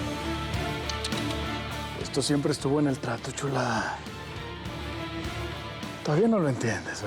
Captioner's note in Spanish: chasquido bucal